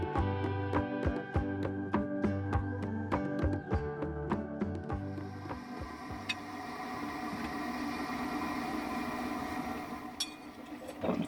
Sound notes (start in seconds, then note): 7.1 coffeemaker sounds